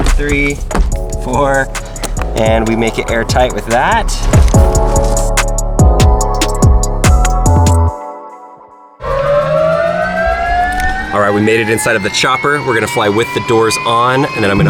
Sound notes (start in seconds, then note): 4.7 calm hiphop music; 9.0 revving up sound